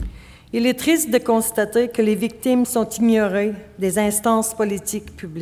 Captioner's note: speaking French